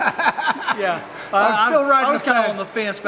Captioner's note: laughing